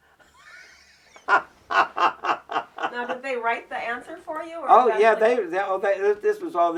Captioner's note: laughs